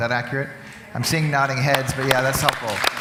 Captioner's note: background talking and clapping